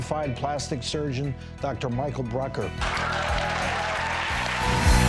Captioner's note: cheers and applause; dramatic music